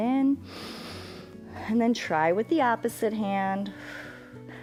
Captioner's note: inhales